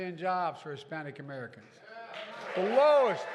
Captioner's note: applause